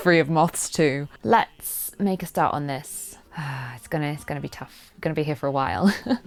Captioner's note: sighs